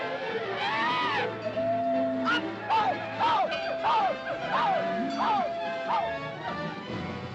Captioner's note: elephants screeching; shouting at animals; cacophony of animal noises; suspenseful music